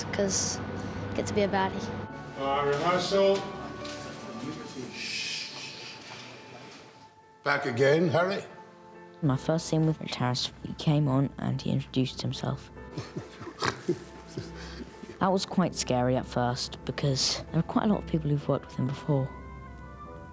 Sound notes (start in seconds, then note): 4.9 man shushing; 12.9 chuckles